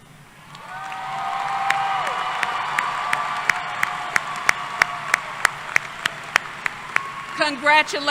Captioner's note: applause